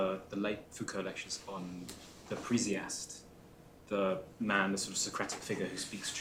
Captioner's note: non-english